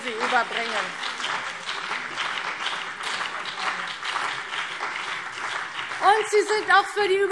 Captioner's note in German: Beifall CDU und BÜNDNIS 90/DIE GRÜNEN